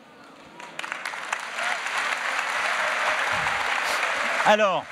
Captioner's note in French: Applaudissements